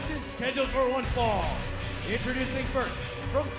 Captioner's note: bell ringing